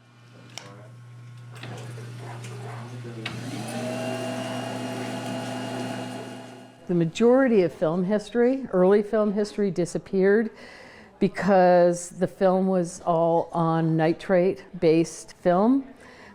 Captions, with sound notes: (projector whirring) The majority of film history, early film history disappeared because the film was all on nitrate based film.